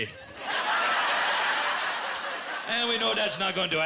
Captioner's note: laughter